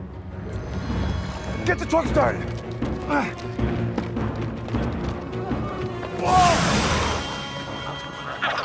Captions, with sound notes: (dramatic music) Get the truck started. (Tector gasps) Whoa!